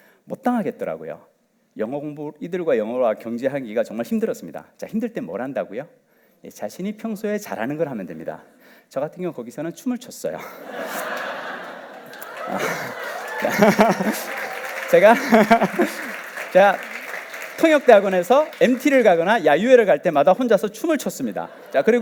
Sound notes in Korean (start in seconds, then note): 13.9 웃음; 14.7 박수와 환호